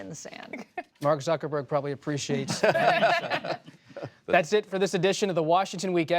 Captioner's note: laughter